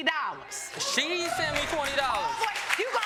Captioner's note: audience clapping